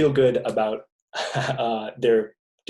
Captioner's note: laughing